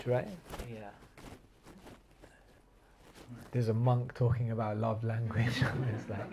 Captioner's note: laughter